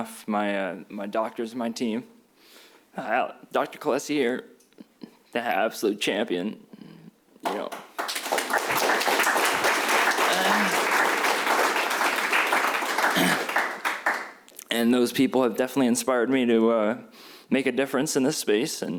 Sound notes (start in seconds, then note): 7.4 applause